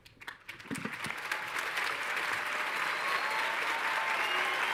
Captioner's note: all cheering and clapping